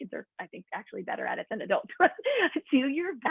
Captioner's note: laughter